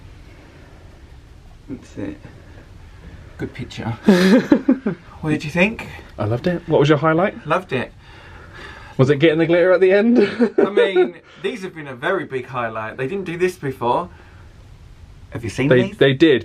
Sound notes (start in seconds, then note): 4.0 chuckles